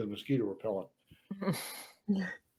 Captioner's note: laugh